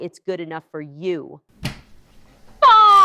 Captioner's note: trap door triggers